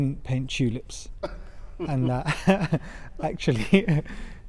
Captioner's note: laughter